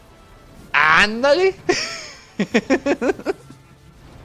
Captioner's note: laughs